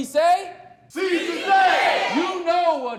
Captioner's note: crowd